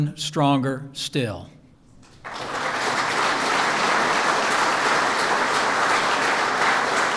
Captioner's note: applause